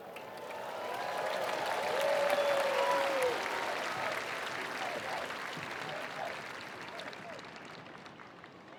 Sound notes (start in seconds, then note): 0.1 attendees applauding; 0.2 attendees cheering